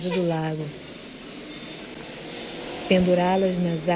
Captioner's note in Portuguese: ruído da rua e carros ao fundo